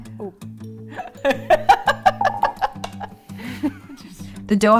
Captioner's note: laughing